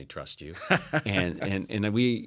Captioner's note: laugh